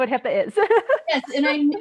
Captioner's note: laughs